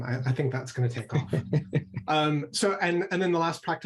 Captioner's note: laughter